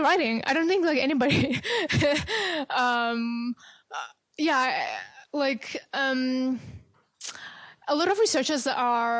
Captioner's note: laughs